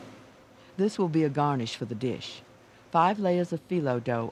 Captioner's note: voiceover